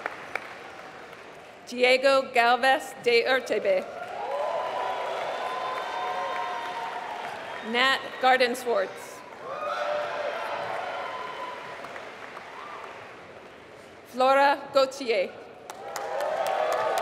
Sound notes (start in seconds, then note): 3.8 applause; 15.6 applause